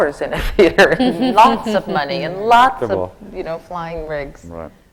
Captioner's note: laughter from the panel